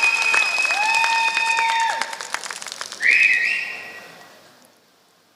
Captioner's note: applause